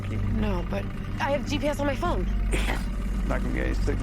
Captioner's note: snorts